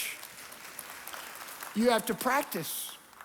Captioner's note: congregation applauding